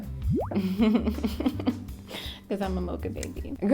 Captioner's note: laughing